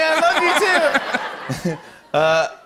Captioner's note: laughter